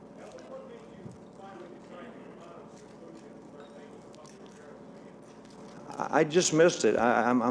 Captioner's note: reporter faintly speaking